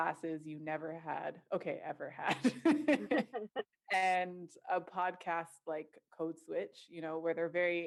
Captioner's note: laughter